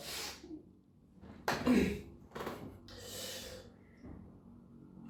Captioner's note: clears throat